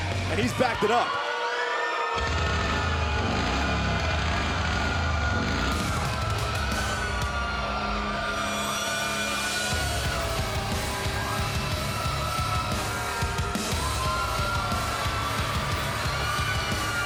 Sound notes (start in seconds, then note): 5.6 crowd cheering